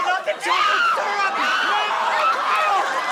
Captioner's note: screams